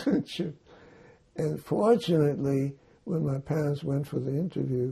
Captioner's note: laughing